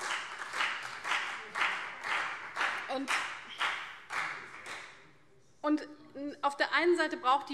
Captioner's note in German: Beifall CDU und BÜNDNIS 90/DIE GRÜNEN